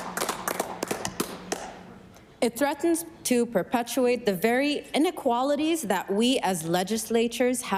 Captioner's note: applause